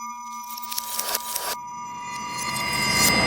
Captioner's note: image zapping; memory image whooshes